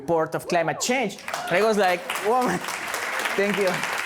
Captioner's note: applause